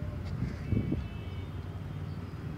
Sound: car horns

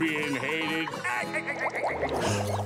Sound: laughing

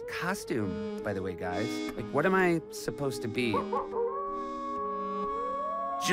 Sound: wolf howls

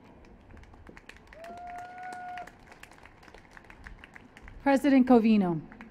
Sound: applause

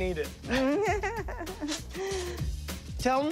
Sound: laughing

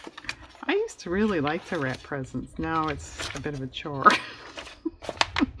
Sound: laughs

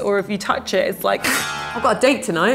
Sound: ripping hair

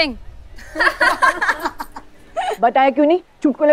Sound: crowd laughing

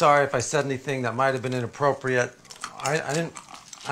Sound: crunching

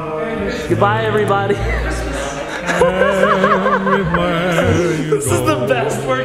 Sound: laughing

